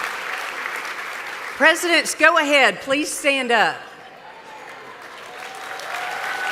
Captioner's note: applause